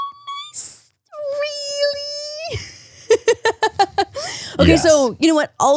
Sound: laughs

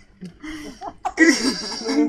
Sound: weird laughing

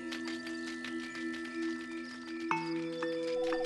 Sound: crickets chirp

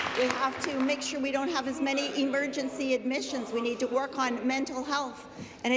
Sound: applause

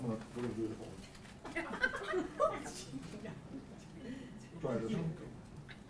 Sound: laugh

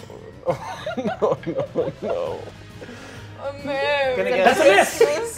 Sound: players laughing

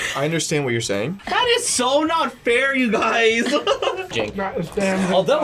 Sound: laughs

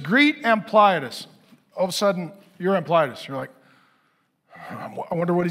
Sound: sighs

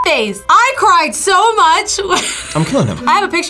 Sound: laughs

